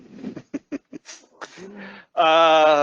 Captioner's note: chuckles